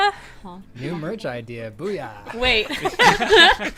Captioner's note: laughter